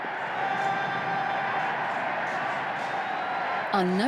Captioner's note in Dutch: publiek juicht